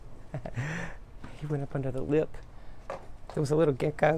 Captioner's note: laughs